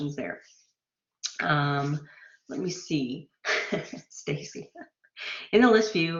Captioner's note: laughter